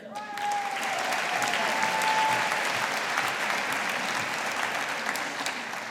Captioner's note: audience applauding